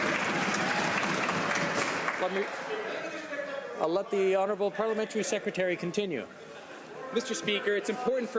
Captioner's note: some Applause